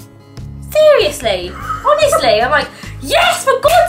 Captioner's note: laughs behind the camera